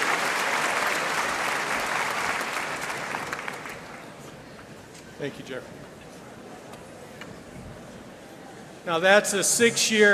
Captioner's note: applause and cheering